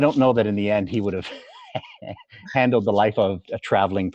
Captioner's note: laughs